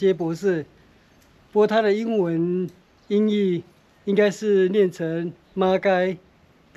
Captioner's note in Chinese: 台语